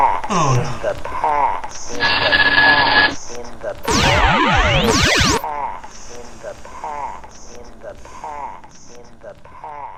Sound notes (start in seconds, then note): 0.0 scratchy robot voice; 2.0 printer sound